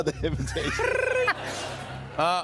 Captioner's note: laughter